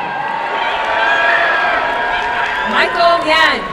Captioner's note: crowd cheering and applauding